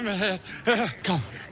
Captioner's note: grunts